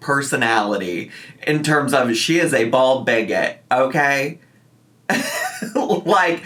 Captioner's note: laughs